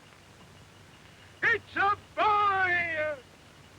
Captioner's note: shouting